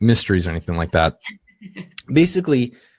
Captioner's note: laughing